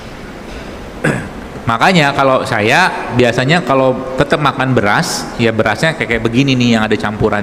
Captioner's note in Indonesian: berdehem